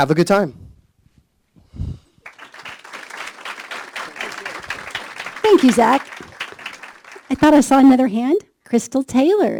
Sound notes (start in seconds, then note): 2.2 applause